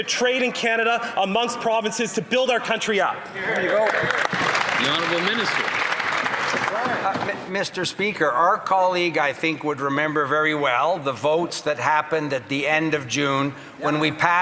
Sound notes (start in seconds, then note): 7.1 applause